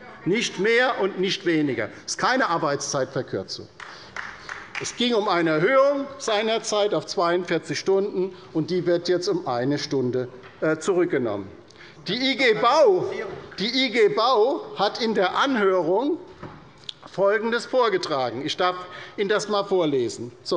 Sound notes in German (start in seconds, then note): 3.7 Beifall bei der LINKEN